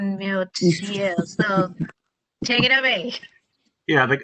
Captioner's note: laughter